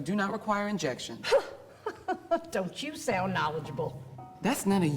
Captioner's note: chuckles